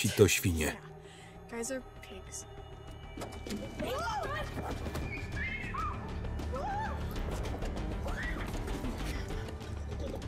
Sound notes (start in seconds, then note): 5.0 girls screaming; 5.3 dramatic music